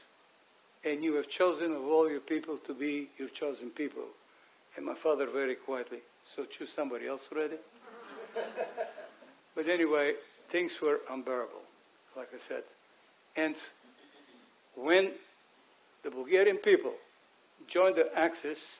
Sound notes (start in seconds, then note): 7.8 audience chuckles